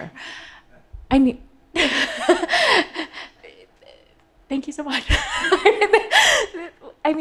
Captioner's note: laughing